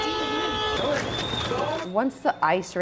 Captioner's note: screaming